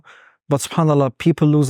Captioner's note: speaking Arabic